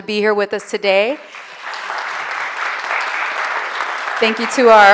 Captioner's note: audience applauding